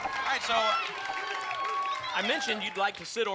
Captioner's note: applause and cheering